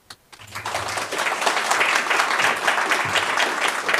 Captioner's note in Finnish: Aplodeja